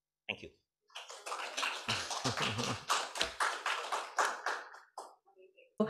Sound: applause

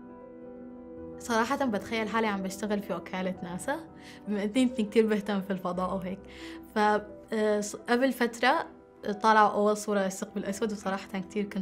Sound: non-english speech

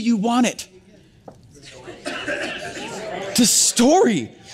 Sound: audience murmur

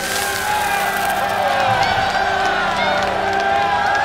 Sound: crowd cheering

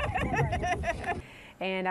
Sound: laughter

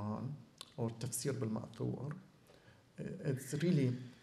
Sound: non-english

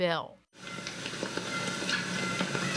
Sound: bird call

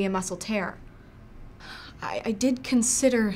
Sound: sigh

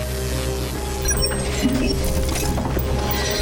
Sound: beeping

